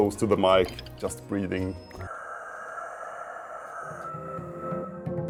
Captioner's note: breathes deeply